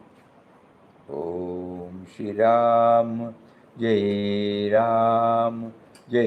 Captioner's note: chanting in foreign language